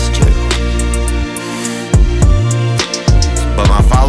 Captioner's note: Theo inhales